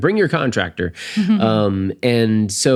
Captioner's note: laughing